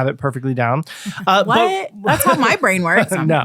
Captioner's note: jokingly